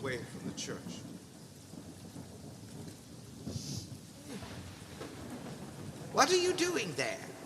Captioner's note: rain continues